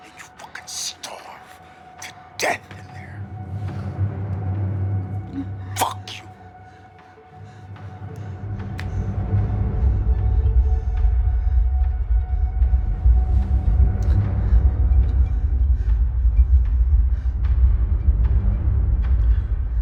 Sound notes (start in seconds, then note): 5.4 Joe breathes heavily; 8.0 suspenseful music continues